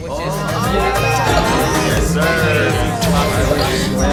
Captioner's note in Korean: 쩝쩝